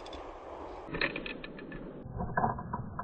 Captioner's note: extra pathetic, slo-mo crunch; slower-mo crunch; super slow, super sad crunch